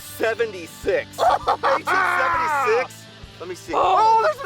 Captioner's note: cheers